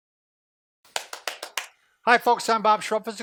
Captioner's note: clapping fast